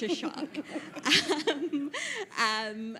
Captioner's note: panel laughs